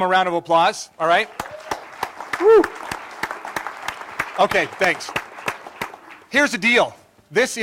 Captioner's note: applause